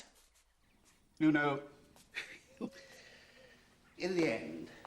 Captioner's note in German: lacht